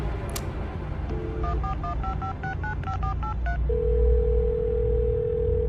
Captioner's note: phone dialing and ringing